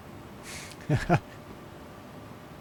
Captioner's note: laughs